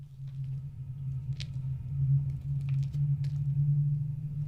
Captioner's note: footsteps